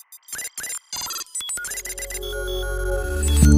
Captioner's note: computer processor beeping; calm music